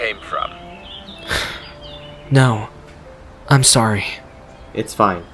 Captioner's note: sigh